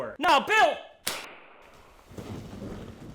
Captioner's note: toy gun shoots